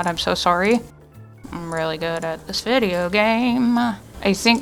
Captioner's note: singsong-y